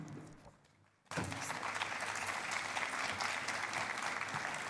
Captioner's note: applause